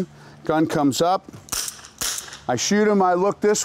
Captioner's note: gunshots